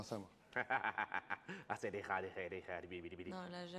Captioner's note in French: rire, charabia